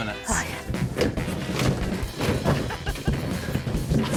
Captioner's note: objects clatter